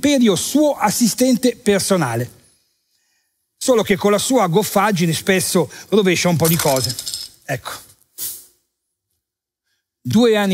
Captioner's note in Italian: rumore di vetrini che cadono